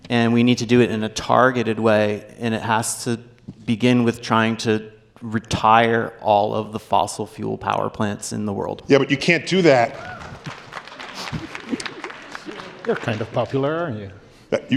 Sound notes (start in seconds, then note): 9.9 applause